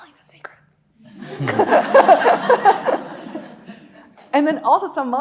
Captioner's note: laughing; audience laughing